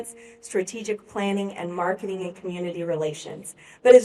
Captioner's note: none